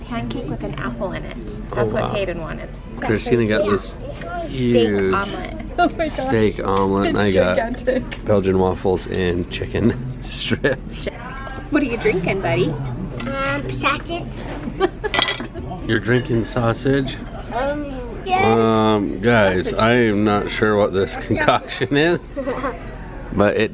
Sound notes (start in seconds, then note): 14.7 laughs